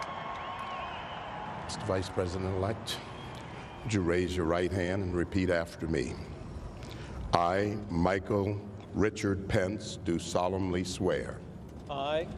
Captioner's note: cheering